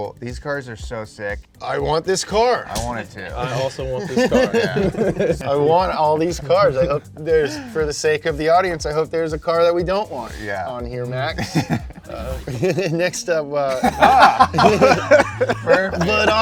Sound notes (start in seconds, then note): 2.7 punch thuds; 3.3 all laughing; 11.3 laughing; 13.7 all laughing